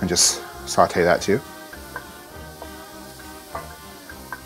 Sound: sizzling; quaint playful music

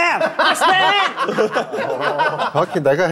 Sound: happy audience

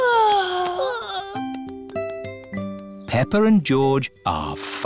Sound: peppa and george yawning

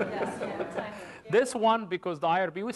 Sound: laughter

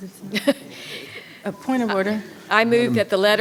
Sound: clerk laughing

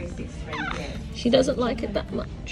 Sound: baby grunts

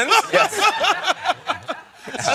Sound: laughter

